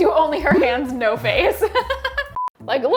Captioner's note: laughs